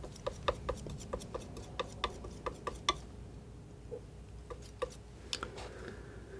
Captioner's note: tapping